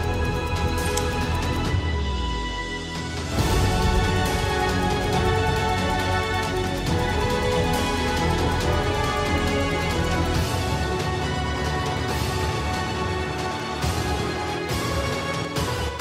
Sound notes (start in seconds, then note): 0.8 open lock sound